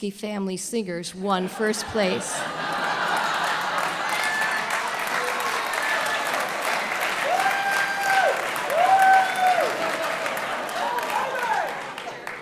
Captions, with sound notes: Family Singers won first place. [Audience laughter] [Audience cheering]